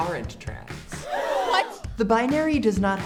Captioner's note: gasping sounds